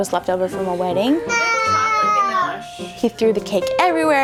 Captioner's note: yelling